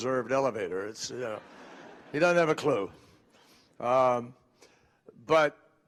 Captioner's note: laughter